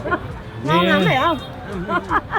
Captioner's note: laugh; speaking Vietnamese; laugh